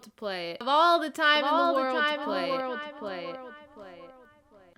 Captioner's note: echoing